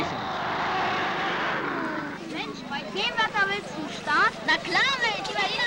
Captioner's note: speaking german